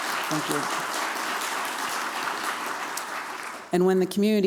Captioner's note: applause